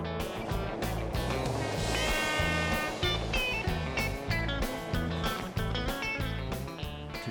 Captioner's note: train rumbling; horn blaring